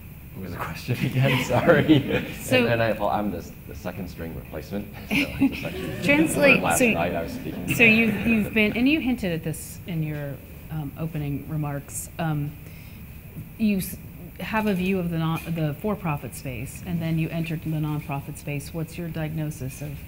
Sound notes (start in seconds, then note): 5.0 laughs; 7.2 laughter